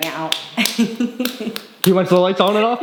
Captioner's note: clapping; laughs